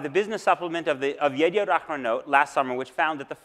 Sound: speaks Hebrew

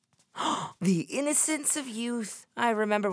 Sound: gasps

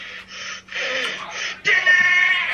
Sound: breathes quickly

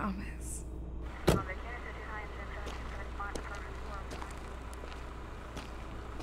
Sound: police scanner talking

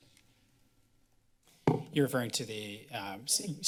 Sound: tap sounds

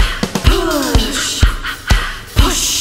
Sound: ha ha ha ha

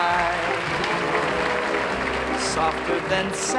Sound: audience applauding

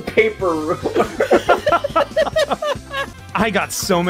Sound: laughter

